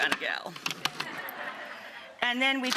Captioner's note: audience laughs